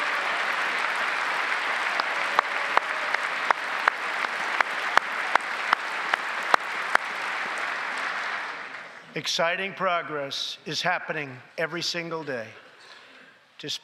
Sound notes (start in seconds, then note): 6.2 applause